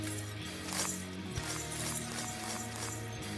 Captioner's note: glass grinding